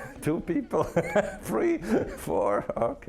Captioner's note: laughing